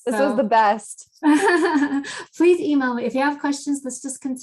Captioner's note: laughs